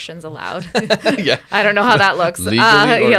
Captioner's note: laughing